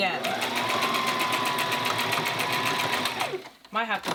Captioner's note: sewing machine whirs